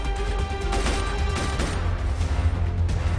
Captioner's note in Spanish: Disparos